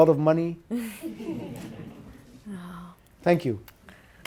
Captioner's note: audience laughs